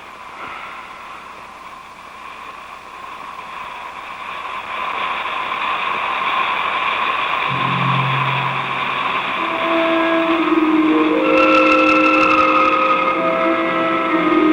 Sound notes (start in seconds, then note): 4.6 eerie music; 4.6 gas whooshing